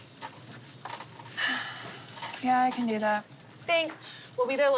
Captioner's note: sighs